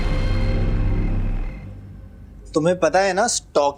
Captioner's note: crickets chirping